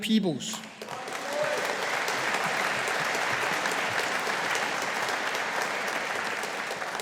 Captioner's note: audience applauding